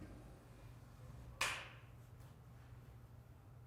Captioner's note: clap